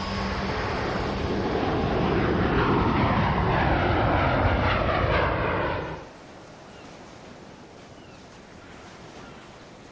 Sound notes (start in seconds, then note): 0.0 airplane roaring